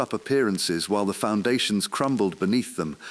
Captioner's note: exhale